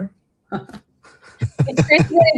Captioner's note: laughter